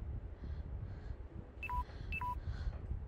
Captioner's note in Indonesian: Suara baterai lemah